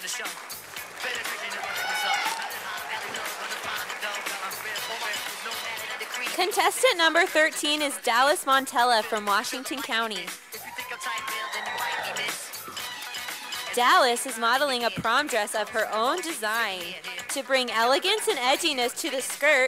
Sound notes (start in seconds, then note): 2.6 sound of applause from audience; 10.5 sound of cheers from audience